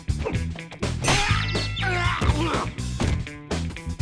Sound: grunting

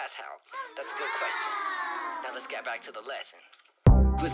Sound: childlike applause

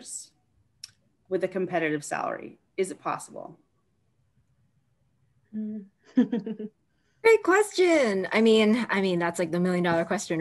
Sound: laughter

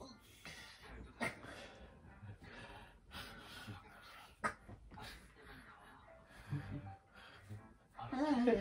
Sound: I am coughing because it hurts a little but it is relaxing

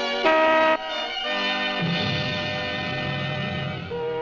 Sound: car horn honking

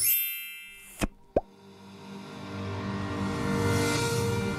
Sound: electronic ringing; relaxing electronic music

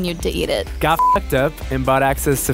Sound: voiceover

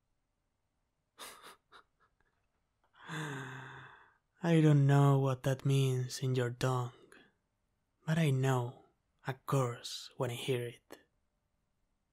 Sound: bitter laugh

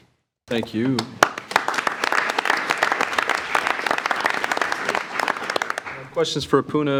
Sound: all applauding

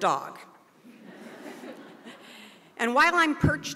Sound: audience laughed

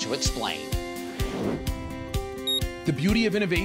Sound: soft music; beeping

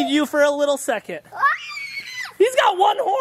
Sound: screams

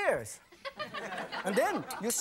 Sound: audience laughing

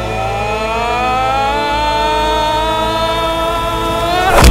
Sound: screams

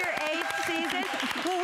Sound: applause

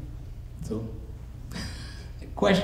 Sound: laughs

